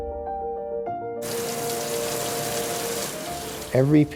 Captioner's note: water runs